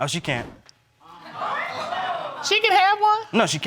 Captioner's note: crowd